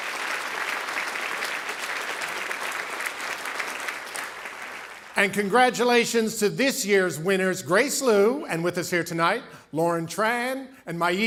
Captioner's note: cheering and Applause